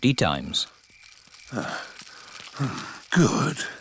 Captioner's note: panting